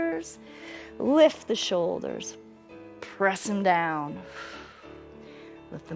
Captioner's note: exhales